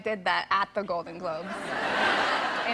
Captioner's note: laughter